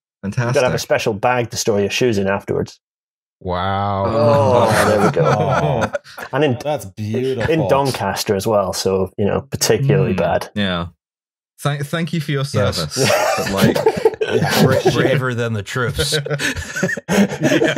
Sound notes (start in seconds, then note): 4.0 laughs; 12.9 laughter; 15.7 laughing; 15.8 laughter